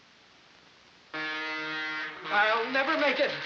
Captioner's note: blaring